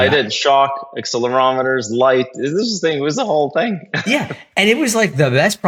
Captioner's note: laugh